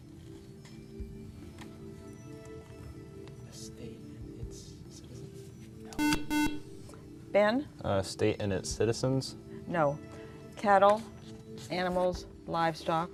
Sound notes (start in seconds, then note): 6.0 beeping